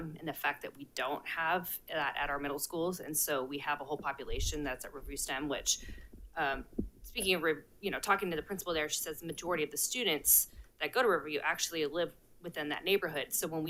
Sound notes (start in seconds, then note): none